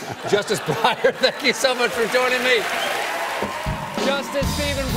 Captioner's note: laughter